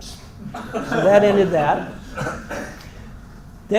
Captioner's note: laugh